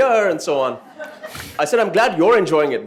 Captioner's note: laughter